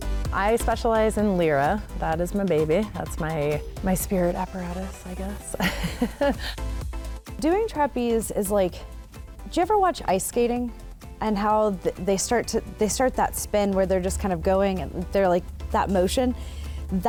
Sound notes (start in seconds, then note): 0.0 upbeat music; 5.3 laughs